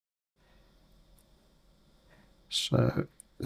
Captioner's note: silence